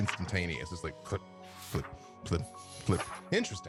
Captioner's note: flip flip flip